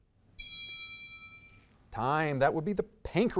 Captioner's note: bell ringing